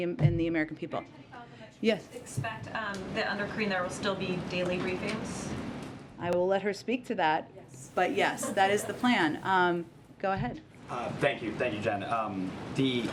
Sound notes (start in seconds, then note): 8.0 laughter